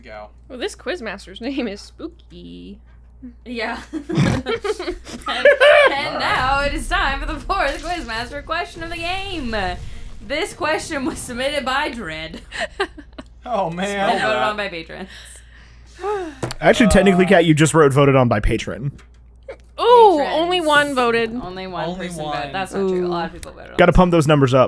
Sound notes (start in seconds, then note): 3.9 team laughter, including a snort and cackle; 12.4 laughter